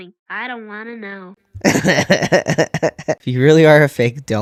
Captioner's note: laugh